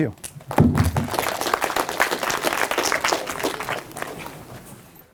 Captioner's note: applause